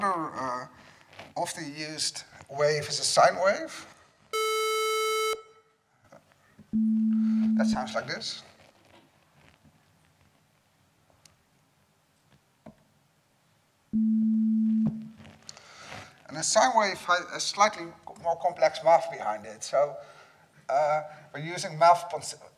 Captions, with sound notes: Another often used wave is a sine wave. (beep) That sounds like this. (beep) And a sine wave has a slightly more complex math behind it, so we're using math.sin